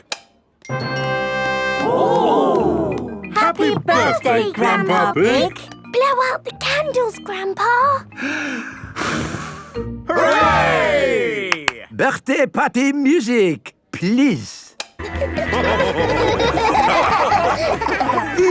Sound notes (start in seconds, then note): 0.5 click; 8.1 breathes deeply, blows; 11.4 claps; 15.1 dance party music